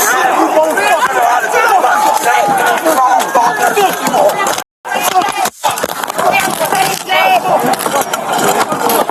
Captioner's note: shouting